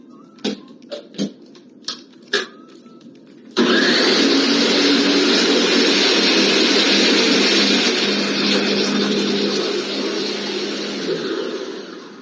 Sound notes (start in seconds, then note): 3.8 blender sound